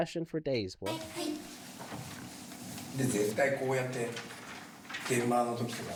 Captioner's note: speaking Japanese